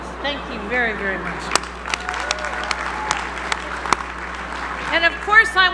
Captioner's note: applause